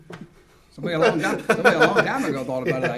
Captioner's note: laughs